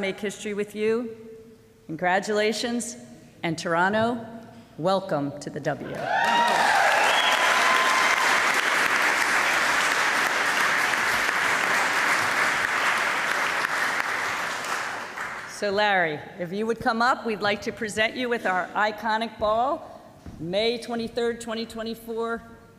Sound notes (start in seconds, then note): 9.7 applause